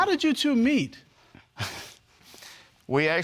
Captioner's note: chuckles